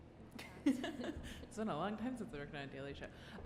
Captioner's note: laughs